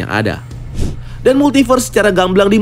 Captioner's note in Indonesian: suara transisi